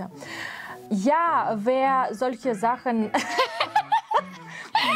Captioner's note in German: lachen